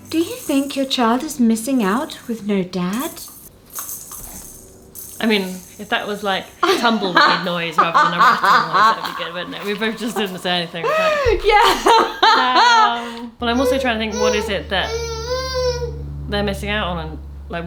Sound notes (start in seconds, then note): 6.6 laughter; 13.3 whines